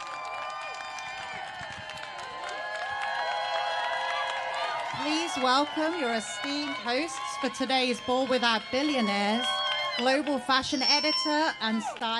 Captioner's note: applause